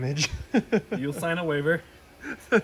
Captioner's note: laughs